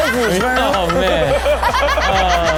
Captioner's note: laughing hysterically